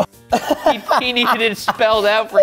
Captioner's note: laughs